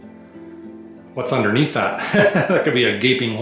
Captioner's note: laughter